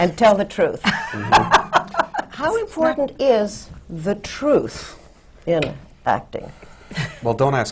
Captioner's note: laughter